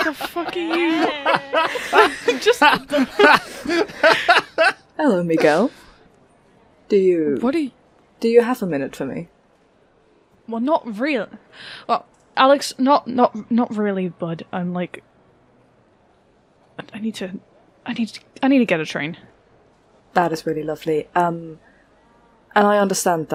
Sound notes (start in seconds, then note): 4.9 more laughter; 9.9 stuttering